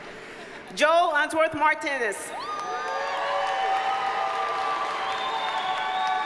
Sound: audience cheers and applauds

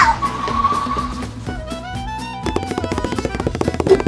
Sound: assistant skidding; feet pattering

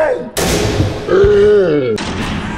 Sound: screaming

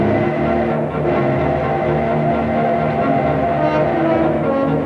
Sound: train whistle blowing; intense music

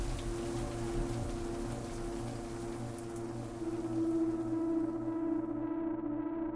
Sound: foreboding sound of pulsing ethereal energy

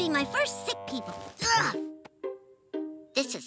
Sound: grunting

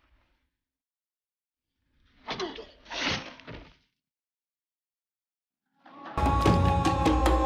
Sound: blood squirting; grunting

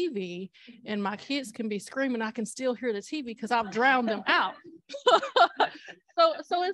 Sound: laughter

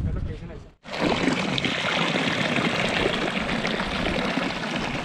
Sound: water falling sound

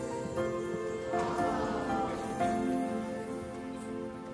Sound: crowds ohs and aws

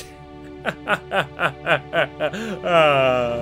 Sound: laughter

